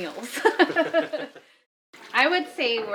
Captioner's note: laughs